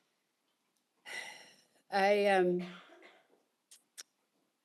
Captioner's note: sighs